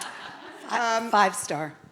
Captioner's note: audience laughing